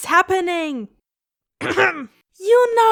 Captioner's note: random cough